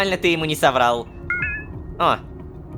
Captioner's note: notification